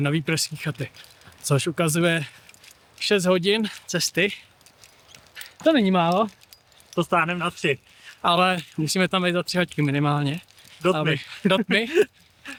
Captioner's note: laughs